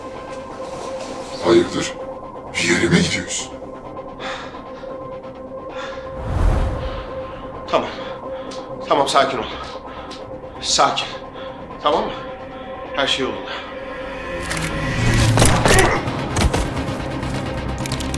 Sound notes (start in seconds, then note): 15.3 gunshots